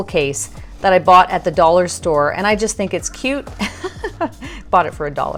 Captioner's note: laughs